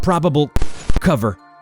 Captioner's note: static noise